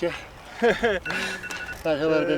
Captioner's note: chuckles